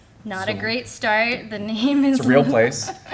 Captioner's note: laughter